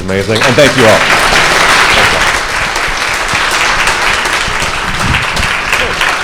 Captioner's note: audience applauding